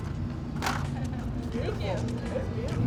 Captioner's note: laughing